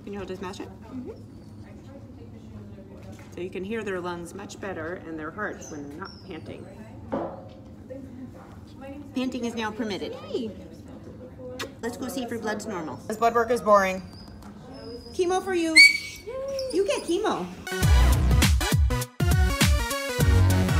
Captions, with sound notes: So you can hear their lungs much better and their heart when they're not panting. Panting is now permitted. - Yay. (kissing sound) - Let's go see if your blood's normal. His blood work is boring. Chemo for you. (Snoopy squeals) - Yay You get chemo. (upbeat music)